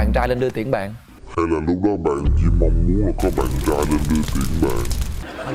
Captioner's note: in demonic voice